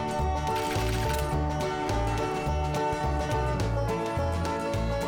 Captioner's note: jaunty banjo music; destination board clacking